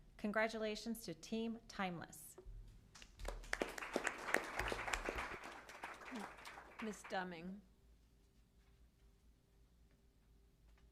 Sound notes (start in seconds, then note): 3.0 applause